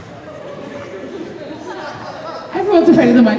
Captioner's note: audience "aww!"; indistinct chatter